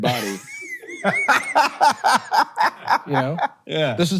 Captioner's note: Hank laughs